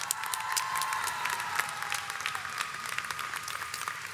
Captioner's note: audience cheers